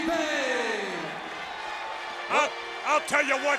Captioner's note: audience applauds and cheers